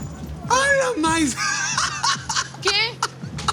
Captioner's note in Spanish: Risas